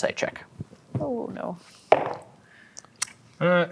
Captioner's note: dice rolling